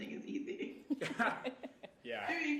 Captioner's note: all laughing